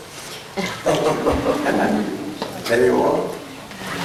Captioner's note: laughter